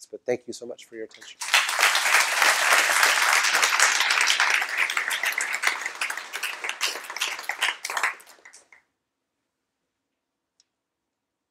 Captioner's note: applause